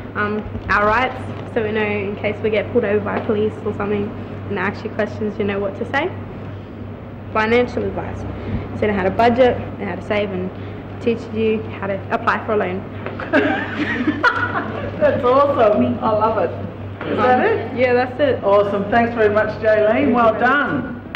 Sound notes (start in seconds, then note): 13.2 laughs